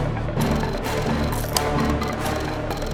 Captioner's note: button clicks